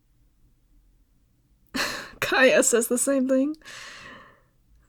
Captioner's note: laugh